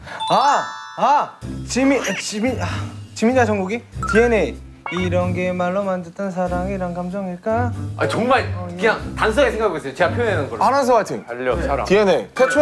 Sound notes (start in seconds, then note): 7.6 frustrated